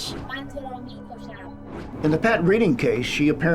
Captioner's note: speaks in foreign language